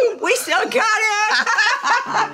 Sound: laugh; gentle music

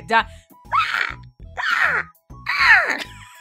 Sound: raptor noises

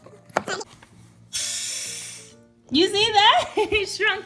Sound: sound of pump going up and down; air blowing

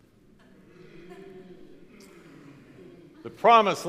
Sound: crowd murmuring

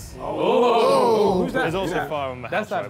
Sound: all cheering

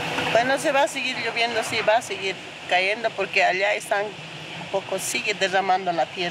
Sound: speaking in foreign language

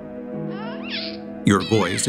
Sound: baby cooing

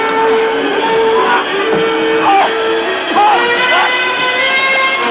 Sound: shouting

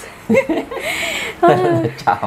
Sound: laughing

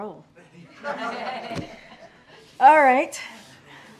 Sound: laughter

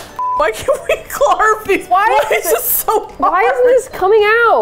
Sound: laughs

